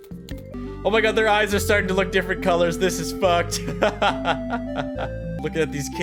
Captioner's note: laughs